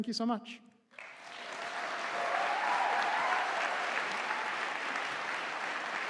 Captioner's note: audience applauding